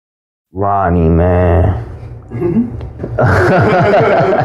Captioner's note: student laughing